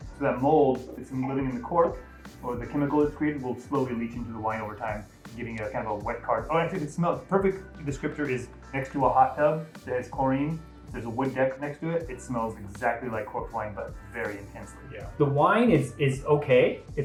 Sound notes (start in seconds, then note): none